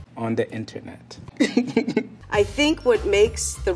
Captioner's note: laughing